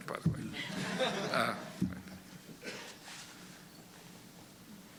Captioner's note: laughter